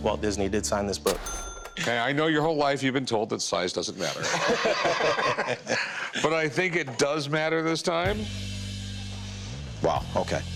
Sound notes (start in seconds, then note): 3.9 laughter